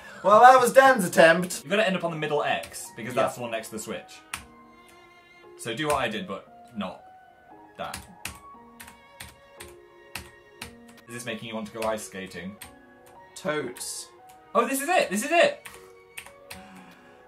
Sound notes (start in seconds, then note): 13.7 excited